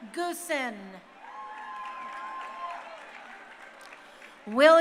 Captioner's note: crowd cheering